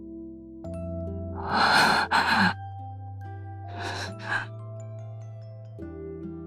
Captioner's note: gasp